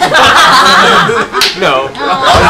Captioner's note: laughter